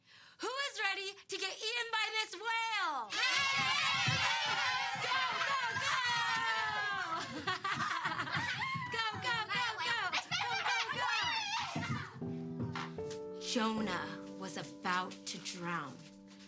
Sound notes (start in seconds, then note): 3.1 kids cheering; 7.2 laughing; 10.3 kids shouting excitedly; 12.4 soft music